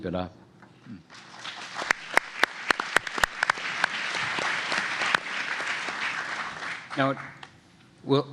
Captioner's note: applause